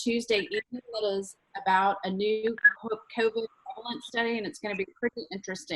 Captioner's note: speaks faintly